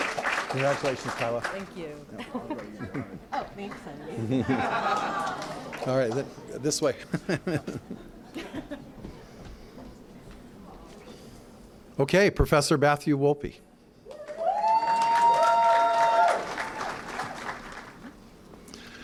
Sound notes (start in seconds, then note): 4.1 laughter; 7.1 laughing; 14.0 cheering & applause